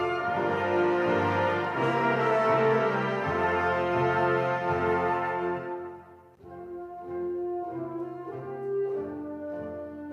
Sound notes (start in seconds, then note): none